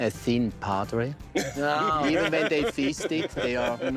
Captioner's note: laughter